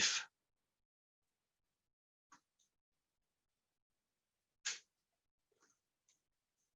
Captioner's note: silence